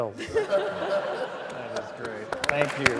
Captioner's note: laughter; applause